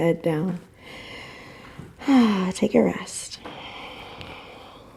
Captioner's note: deep breath